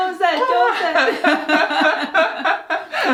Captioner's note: both laughing